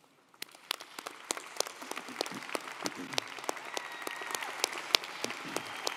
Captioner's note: audience cheering & applauding